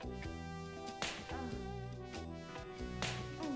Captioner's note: smack; smack